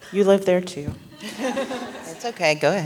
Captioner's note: laughter